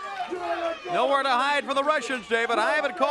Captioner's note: crowd chatter